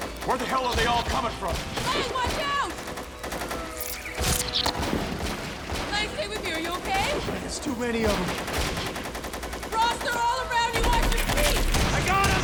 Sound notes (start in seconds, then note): 3.8 spider squeaks; 5.6 guns firing